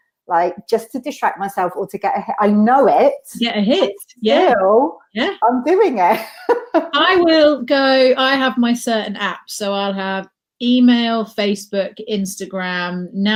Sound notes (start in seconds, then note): 6.3 laughs